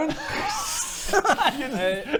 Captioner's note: desperate giggles